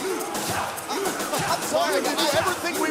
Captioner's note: fans chanting